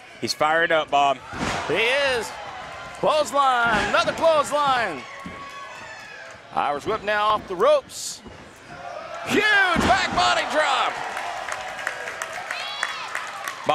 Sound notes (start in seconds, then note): 5.8 woman cheering; 11.8 crowd cheering